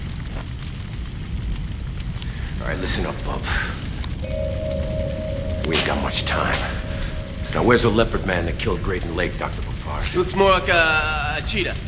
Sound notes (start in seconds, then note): none